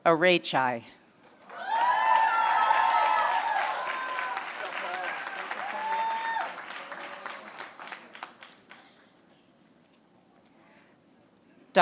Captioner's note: applause